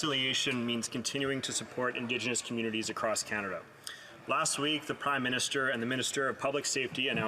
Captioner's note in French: voix de l'interprète